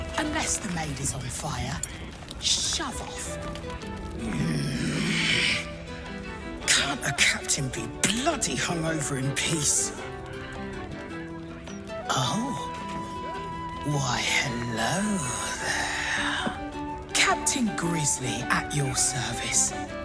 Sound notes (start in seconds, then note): 5.6 groans